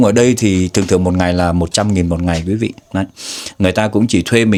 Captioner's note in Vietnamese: khịt mũi